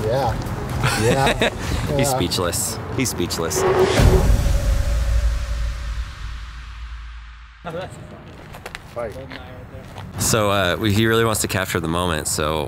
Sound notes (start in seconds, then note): 0.8 interviewer laughs; 2.8 dramatic music